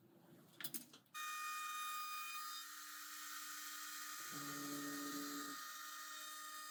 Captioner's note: CNC machine whirring